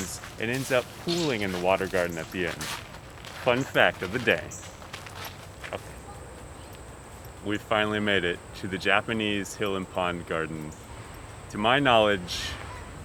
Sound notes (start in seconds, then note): 5.1 cricket chirping